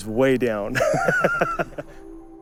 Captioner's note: laughing